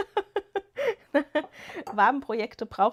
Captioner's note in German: gelächter